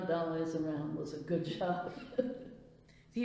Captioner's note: laughs